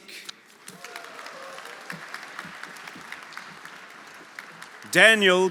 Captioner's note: audience applauding; audience cheering